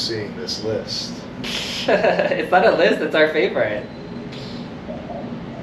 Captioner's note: giggles